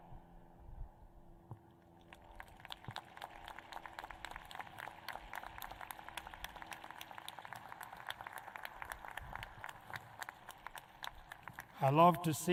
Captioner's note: applause